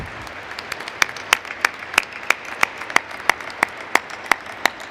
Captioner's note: applause